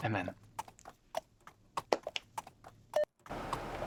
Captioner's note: horse hooves clomping